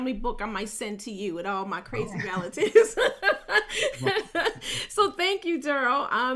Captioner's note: laughs cheerfully